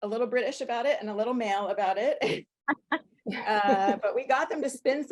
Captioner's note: laughter